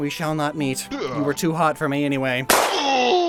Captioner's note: gunshot, low-pitched yell